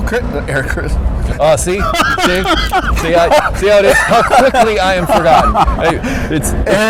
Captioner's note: laughs